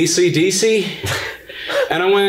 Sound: guffaws loudly

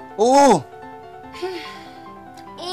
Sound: Inky Doo sighs

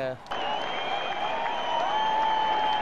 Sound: cheering

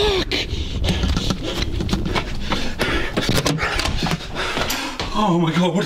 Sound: breathing heavily

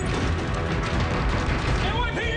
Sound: elevator door squeaks

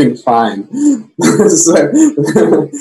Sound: laughs

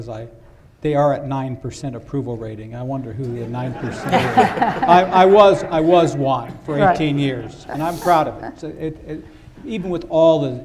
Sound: laughter

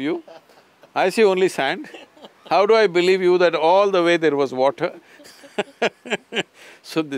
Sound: laughs

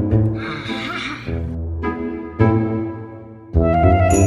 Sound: cackles

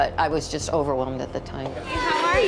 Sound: loud chatter

